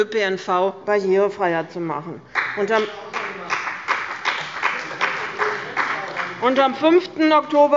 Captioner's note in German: Beifall bei dem BÜNDNIS 90/ DIE GRÜNEN und der CDU